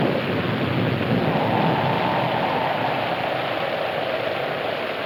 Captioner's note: wind howling